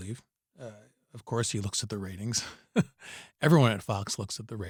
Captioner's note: laughter